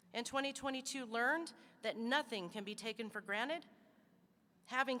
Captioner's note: none